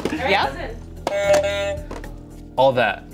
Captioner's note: buzzer sounds